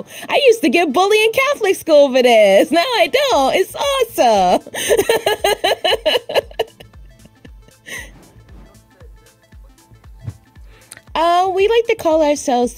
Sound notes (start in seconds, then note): 4.5 laughs